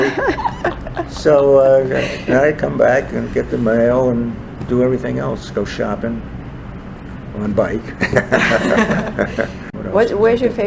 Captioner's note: all laugh